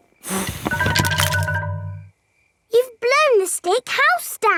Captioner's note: blowing